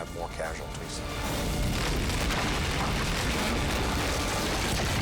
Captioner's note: fire roaring; building crashing